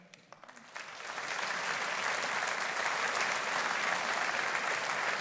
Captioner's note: audience applauding